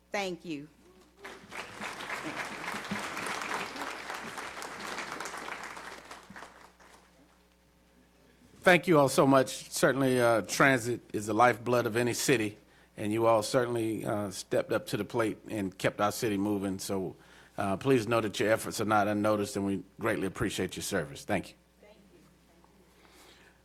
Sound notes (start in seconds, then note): 7.1 applause